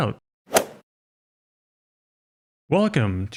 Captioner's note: golf ball hit sound effect